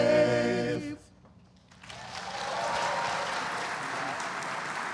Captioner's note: applause